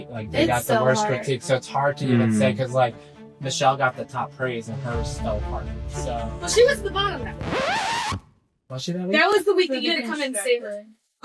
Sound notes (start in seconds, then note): 7.2 record scratch